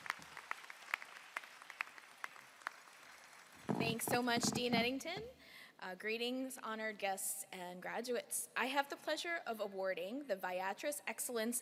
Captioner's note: applause